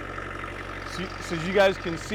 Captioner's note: engine rumbling